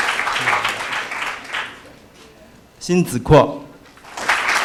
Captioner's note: applause